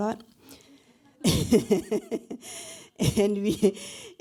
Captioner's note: laughter